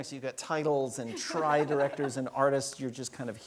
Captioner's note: laugh